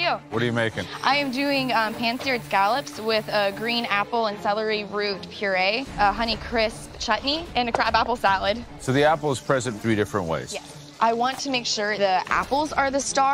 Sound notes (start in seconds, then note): none